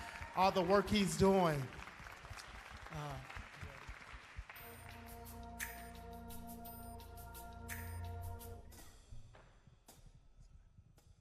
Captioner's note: applause